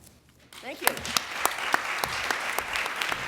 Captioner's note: applause